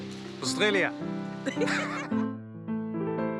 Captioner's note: laughing